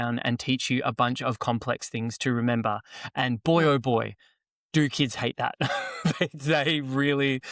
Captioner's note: laughs